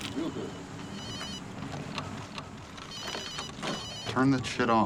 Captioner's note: phone ringing